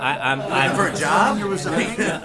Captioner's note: laughter